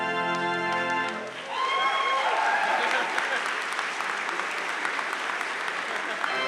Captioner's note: audience cheering and applauding